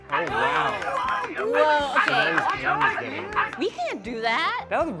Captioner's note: yelling